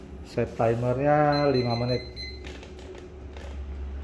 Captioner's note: button beeping